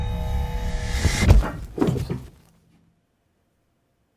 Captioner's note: head thuds